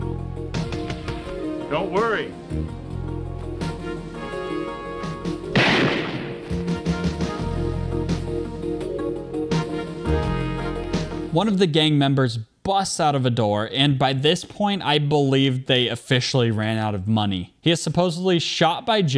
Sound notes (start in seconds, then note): 3.3 dramatic music; 5.5 gunshot